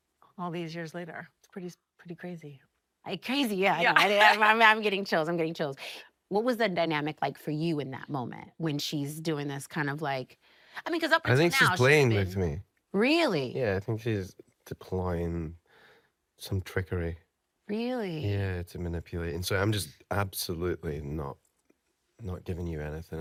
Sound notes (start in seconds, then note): 3.9 laughing